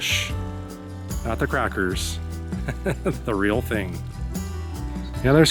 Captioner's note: laughs